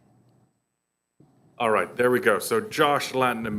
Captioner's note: voiceover